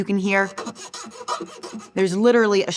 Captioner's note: string scratching